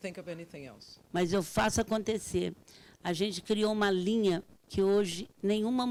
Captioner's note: speaking Portuguese